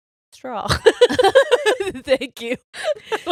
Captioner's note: all laughing